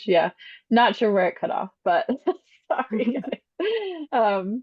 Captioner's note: laughs